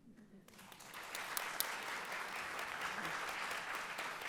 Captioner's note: audience applauds